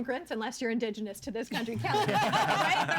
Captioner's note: all laughing